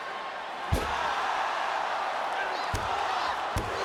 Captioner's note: audience cheering